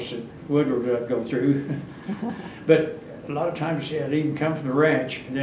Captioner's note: laughs